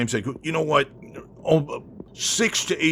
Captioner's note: stammer